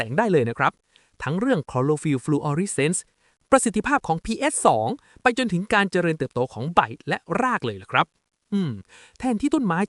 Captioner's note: ahem